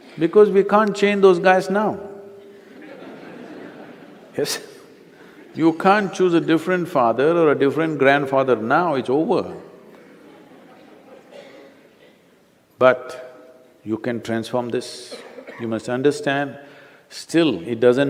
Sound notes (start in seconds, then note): 2.5 laughter; 9.9 few Laugh